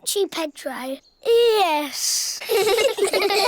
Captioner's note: all giggle